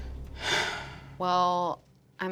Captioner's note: sighing